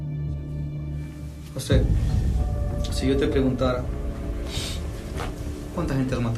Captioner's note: conversing in Spanish